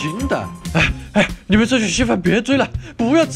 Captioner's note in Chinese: 喘氣